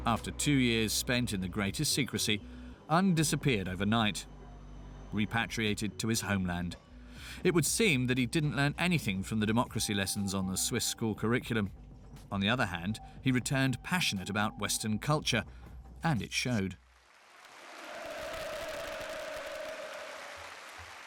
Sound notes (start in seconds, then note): 16.8 applauding